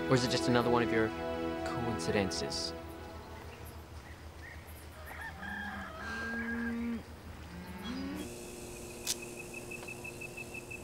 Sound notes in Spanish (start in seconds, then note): 5.0 animales llamando